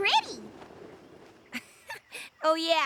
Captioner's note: chuckles